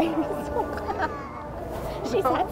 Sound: laughs

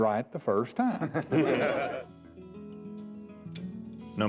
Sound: laughing

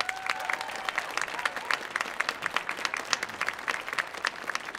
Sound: audience applauding

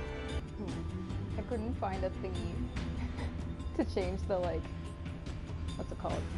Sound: laughs

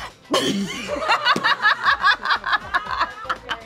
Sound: laughing

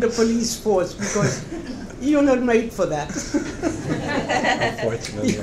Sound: laughs

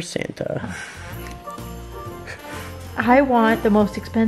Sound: chuckles

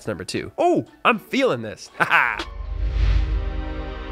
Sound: laughs

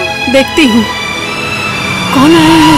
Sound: vehicle approaching

